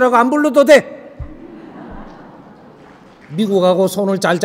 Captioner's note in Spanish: risas del público en la sala